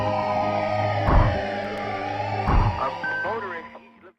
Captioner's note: ambulance noise